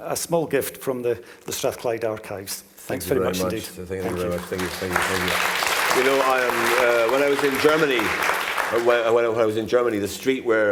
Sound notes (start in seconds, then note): 8.0 clapping